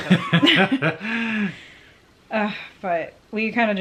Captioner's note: laughs